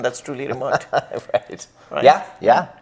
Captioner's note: laughs